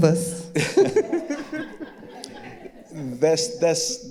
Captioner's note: all laughing